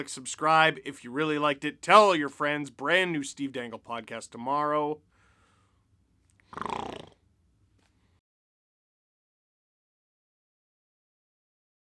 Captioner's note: snarl